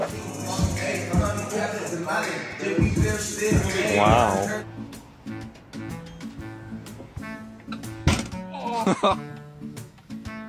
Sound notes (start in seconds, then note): 0.0 rap music; 8.0 bang